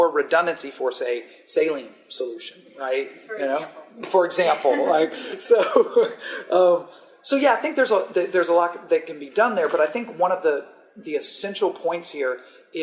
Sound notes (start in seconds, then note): 6.5 laughter